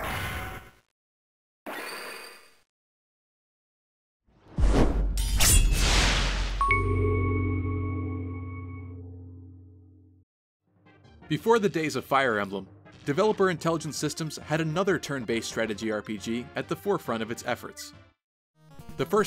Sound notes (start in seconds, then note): 4.5 swoosh; 5.1 sword slash; 6.6 intro jingle